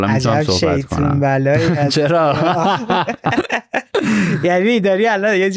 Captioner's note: laughs